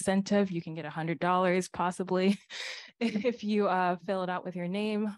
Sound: laughter

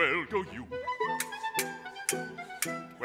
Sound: clanking swords

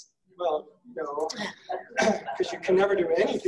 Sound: laughing

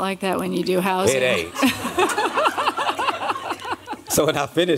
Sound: laughter

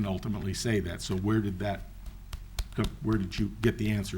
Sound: fists knocking

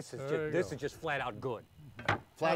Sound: thud

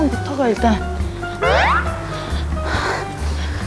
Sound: hurriedly; light steps

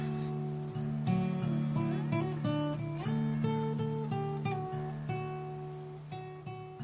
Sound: kids talking

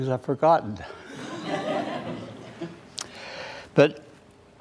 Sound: laughter

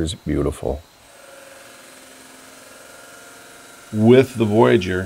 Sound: saw grinding

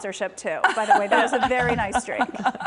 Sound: laughter

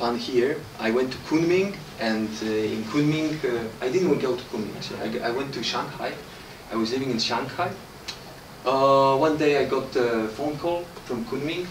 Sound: clap

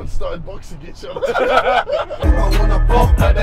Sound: laughing

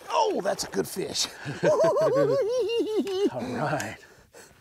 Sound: giggling

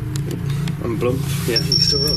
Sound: beeping

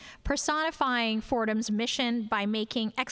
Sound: none

